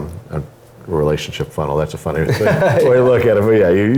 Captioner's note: laugh